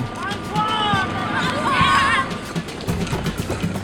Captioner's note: kids yelling back; yelling to the kids; drum beat